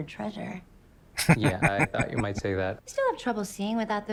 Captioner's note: chuckling